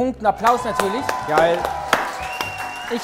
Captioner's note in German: Jubel